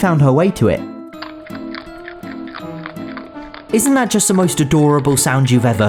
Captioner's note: adorable chomping